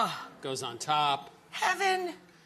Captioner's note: gasps